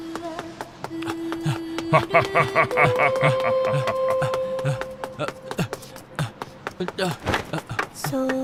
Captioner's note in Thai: เสียงหัวเราะ